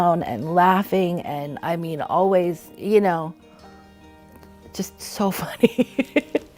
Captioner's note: laughing